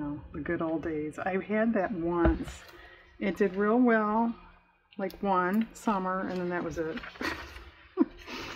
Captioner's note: laughs